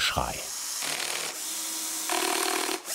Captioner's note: machine noise